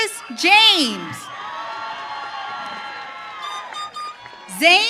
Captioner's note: audience cheering